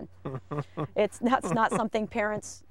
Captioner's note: chuckling